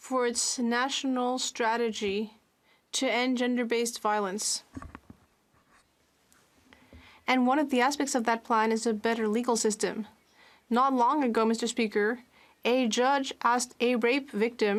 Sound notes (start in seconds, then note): 6.8 speaking French